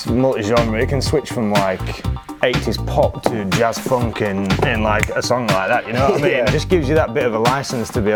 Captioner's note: finger click